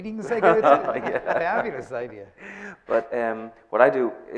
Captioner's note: laughing